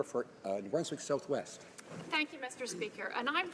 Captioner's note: speaking French